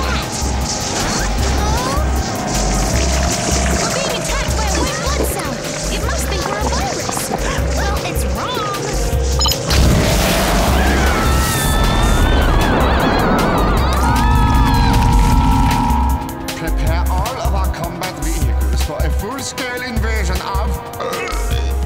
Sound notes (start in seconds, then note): 11.3 yelling